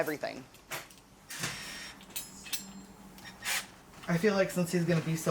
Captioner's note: tool whirring